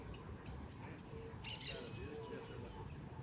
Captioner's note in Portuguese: Pássaros